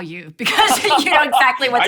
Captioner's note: laughing